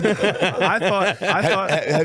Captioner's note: laughing